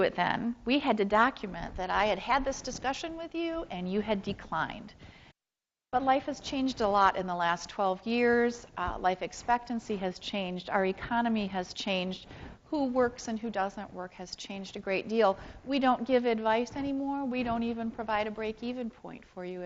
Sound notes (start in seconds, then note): none